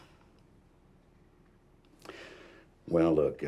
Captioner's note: sighs